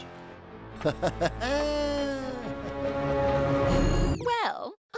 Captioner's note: wicked laughter